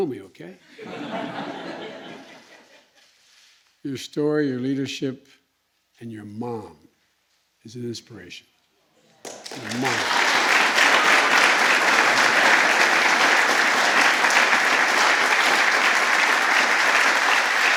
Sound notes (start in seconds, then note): 0.7 laughter; 9.0 applause